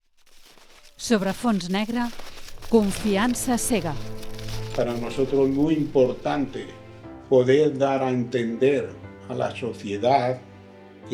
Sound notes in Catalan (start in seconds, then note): 0.0 So de passos caminant sobre neu